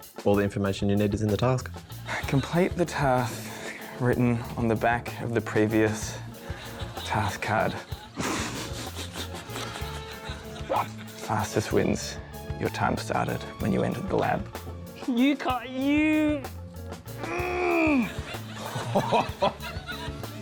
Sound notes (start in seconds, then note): 7.9 laughs; 17.2 suppresses yell; 17.2 laughs